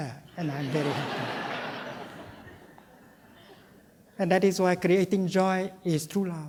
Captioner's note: laughter